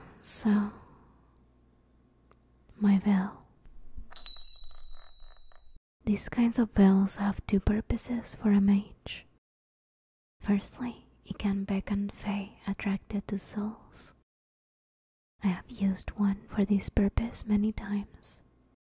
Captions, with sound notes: So, My bell. [small bell ringing] These kinds of bells have two purposes for a mage. Firstly, you can beckon fae attracted to souls. I have used one for this purpose many times.